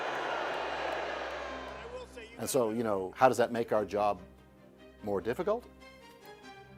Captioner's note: crowd booing